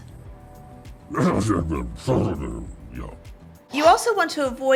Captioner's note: Mega Meta grumbles